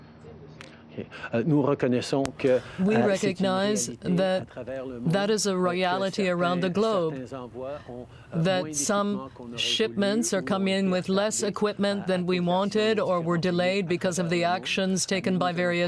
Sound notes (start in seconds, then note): 10.5 speaking French